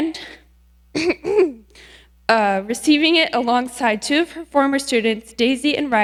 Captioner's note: coughs